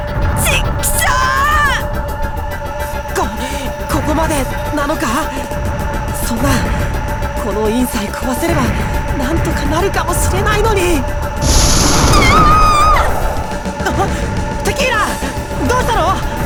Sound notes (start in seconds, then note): 11.4 scream; 14.2 gasp